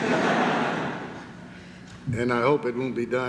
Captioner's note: laughter